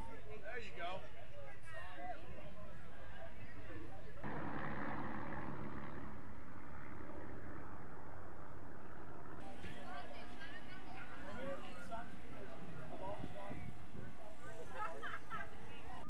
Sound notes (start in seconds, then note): 4.6 planes flying; 9.3 crowd chattering